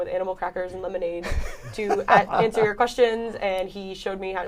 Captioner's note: laughter